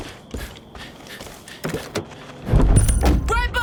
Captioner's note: gun firing